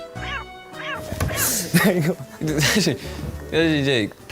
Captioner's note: laughter malfunction